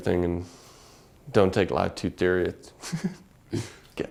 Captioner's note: laugh